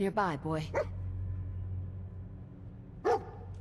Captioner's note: dog barking